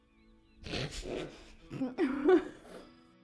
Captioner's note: laughing